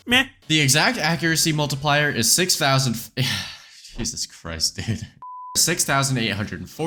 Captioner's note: sigh